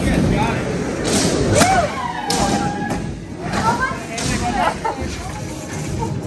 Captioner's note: people cheering